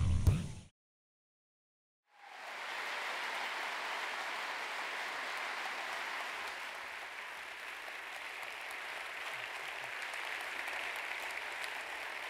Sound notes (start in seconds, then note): 4.3 applause